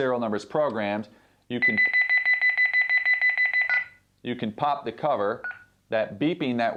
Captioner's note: beeping